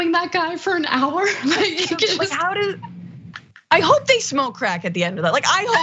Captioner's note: laugh